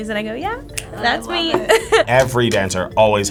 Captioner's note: laughs